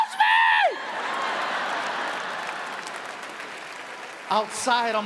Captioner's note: audience applauds